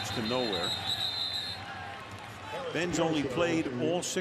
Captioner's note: whistles